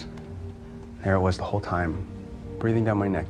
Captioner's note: voiceover